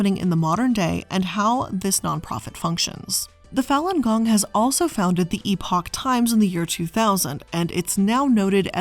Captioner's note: none